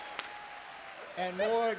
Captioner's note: applause